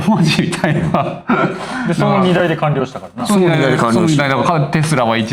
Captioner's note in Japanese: 笑い